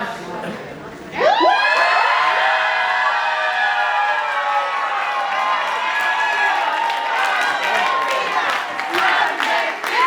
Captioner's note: people cheering